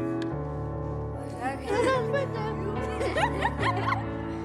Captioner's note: girls chatter, laugh